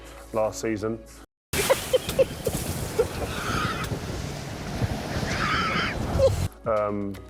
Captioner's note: laughing